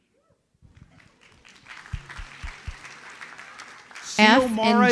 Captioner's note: audience applauds